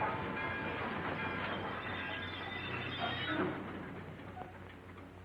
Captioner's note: train wheels screeching